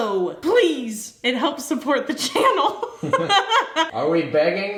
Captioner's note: laughs